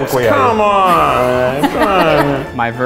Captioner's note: laughs